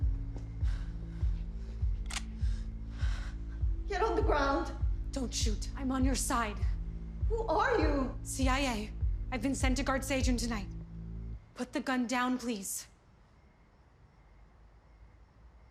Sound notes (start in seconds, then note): 2.0 gun cocking